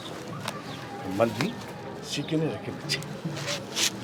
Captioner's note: non-english speech